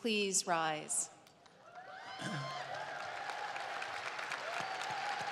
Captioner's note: cheers and applause